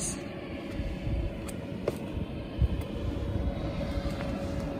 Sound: boat revving

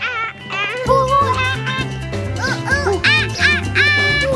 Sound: imitating monkeys

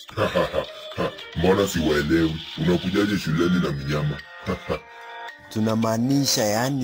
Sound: laughing

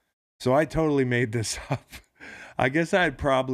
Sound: laughs

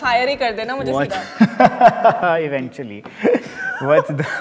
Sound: laughing

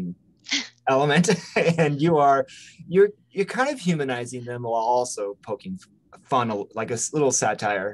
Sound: laughs

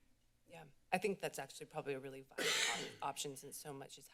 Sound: coughs

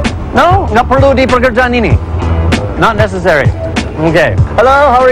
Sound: speaking indonesian

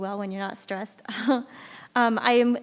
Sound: chuckles

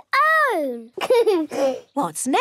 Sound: giggles

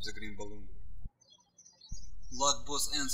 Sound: birds chirping

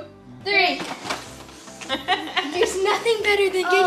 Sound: laughing noises

